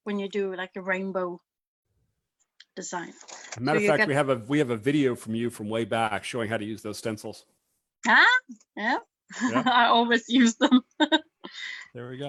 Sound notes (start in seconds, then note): 9.4 laughs